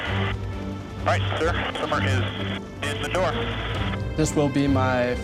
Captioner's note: man Over Radio